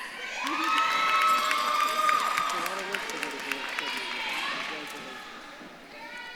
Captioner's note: audience claps and cheers